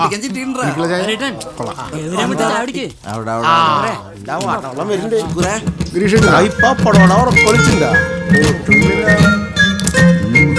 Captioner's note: indistinct chatters